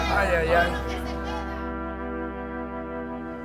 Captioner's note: speaking spanish